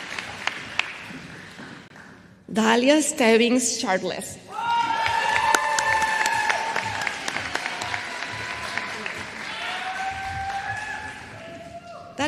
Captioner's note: applause